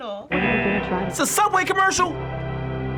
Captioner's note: buzzer